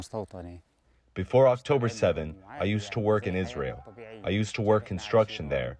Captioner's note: through translator